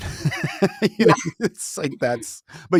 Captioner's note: chuckling